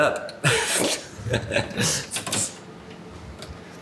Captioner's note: both laugh